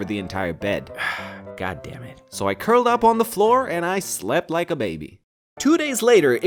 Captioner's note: sigh